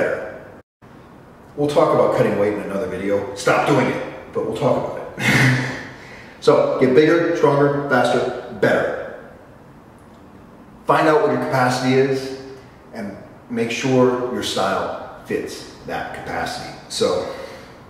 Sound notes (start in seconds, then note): 5.2 laugh